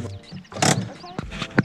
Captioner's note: hand break noise